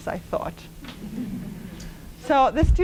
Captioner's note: laughter